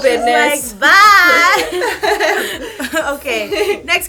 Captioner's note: laughter